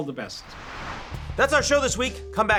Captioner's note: air whooshing